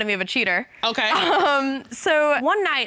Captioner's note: chuckles